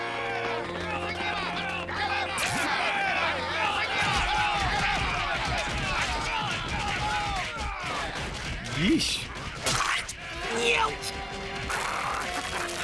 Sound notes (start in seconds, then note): 0.1 villagers clamoring; 4.2 villagers yelling; 9.7 squelching